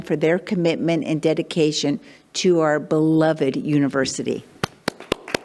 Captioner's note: claps